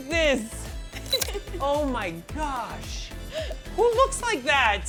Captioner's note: laughs